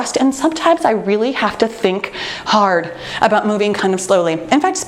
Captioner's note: none